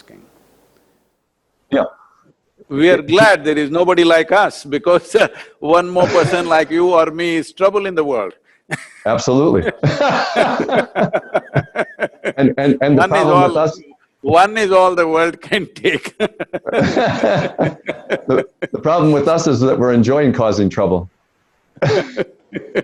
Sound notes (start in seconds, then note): 9.5 both laugh; 15.6 both laugh; 21.7 Sadhguru laughs